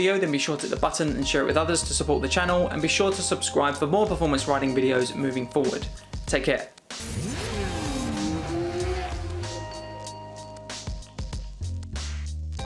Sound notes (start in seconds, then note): 7.0 motorcycle engines roaring